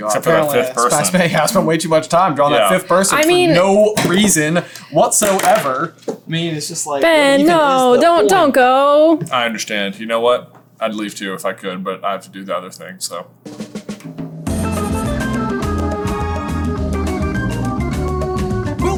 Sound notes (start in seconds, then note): 5.2 pen clunks on ground